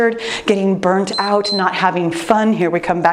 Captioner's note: timer beeps